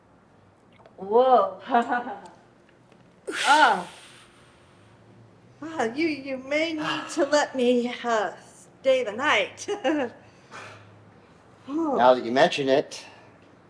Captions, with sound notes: Whoa. (laughs) Ah. Wow, you may need to let me stay the night. (chuckles) - Now that you mention it,